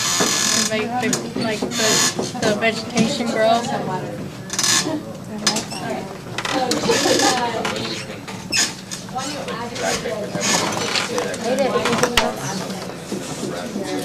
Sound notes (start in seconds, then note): 8.8 chatter